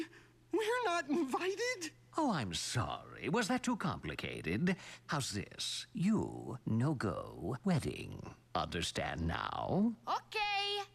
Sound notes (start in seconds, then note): none